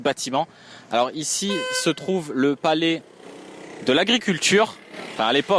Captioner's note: honk